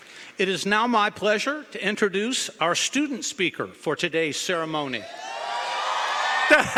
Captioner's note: applause